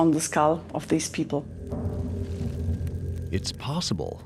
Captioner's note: flames crackling